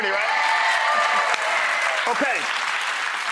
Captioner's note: audience cheering